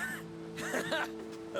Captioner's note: laughs